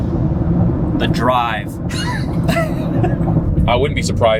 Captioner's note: both laughing